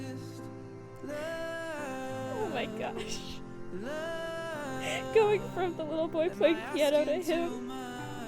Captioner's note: laughs